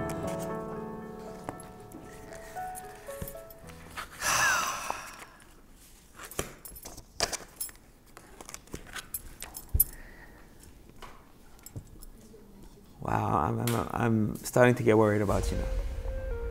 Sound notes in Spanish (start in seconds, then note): 4.1 Un suspiro profundo